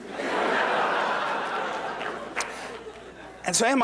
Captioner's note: applause